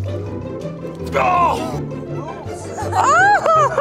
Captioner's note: yells; laughs